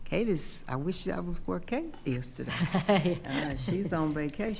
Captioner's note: laughing